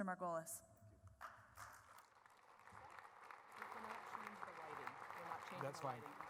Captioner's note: applause